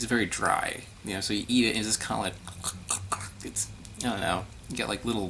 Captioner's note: dry choke